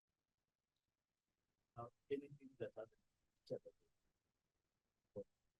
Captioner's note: speaking without microphone